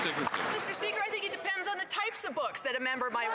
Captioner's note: some Applause